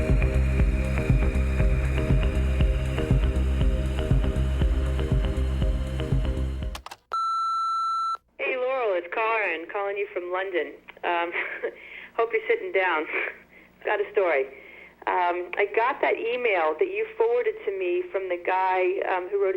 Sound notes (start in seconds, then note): 7.1 answering machine beep; 11.0 laughs